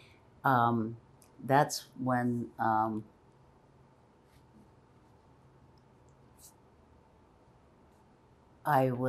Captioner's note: pauses 6 seconds